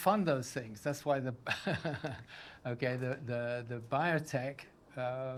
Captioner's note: laughs